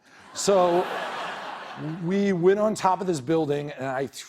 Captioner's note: laughter